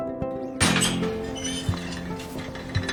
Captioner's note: gate squeaks open